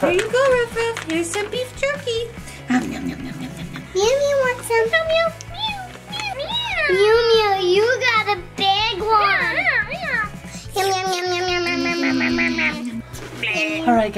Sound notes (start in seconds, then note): 2.8 munching; 5.9 mom meowing; 10.8 all munching